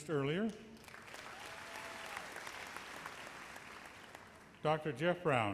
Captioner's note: audience cheers and applauds